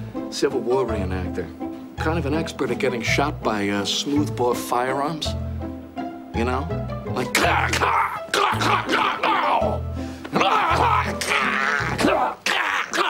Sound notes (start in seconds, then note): 7.4 grunting loudly